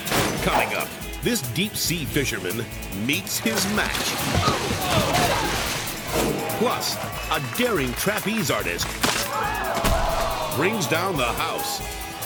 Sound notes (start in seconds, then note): 4.9 fisherman splashes; 4.9 friend gasps; 8.8 rope snaps; 9.2 crowd gasps; 9.7 trapeze artist thuds